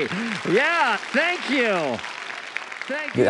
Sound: cheers and applause

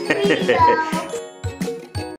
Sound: father laughing

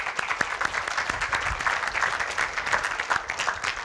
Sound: applause

